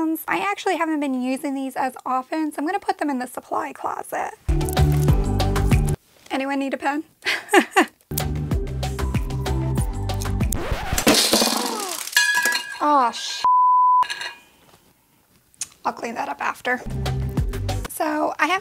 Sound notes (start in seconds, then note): 4.5 light music; 7.3 laughing; 8.1 light music; 10.4 record scratching; 11.0 objects clanking; 13.4 beep; 16.8 light music